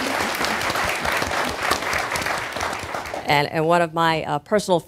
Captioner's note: applause